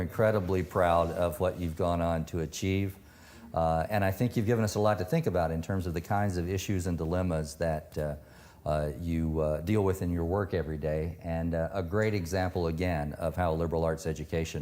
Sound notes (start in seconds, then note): none